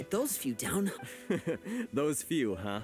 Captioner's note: laughs